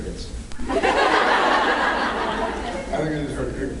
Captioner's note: laughs